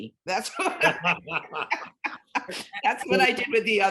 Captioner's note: laughing